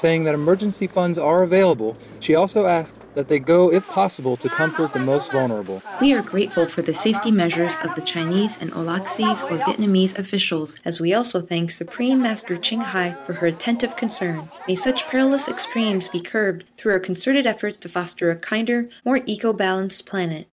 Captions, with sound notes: Saying that emergency funds are available, she also asked that they go if possible to comfort the most vulnerable. We are grateful for the safety measures of the Chinese and Aulacese (Vietnamese) officials, as we also thank Supreme Master Ching Hai for h er attentive concern. May such perilous extremes be curbed through our concerted efforts to foster a kinder, more eco-balanced planet�